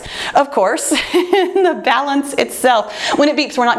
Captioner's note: chuckles